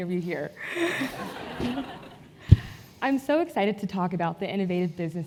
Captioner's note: laugh